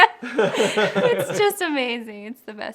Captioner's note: laughing